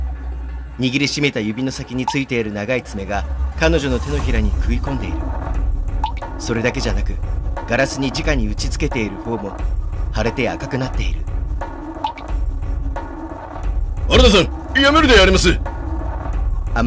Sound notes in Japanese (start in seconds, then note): 6.0 血の滴る音：ポタ; 12.0 血の滴る音：ポタ